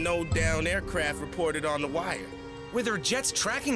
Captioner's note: none